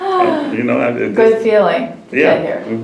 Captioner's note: laughs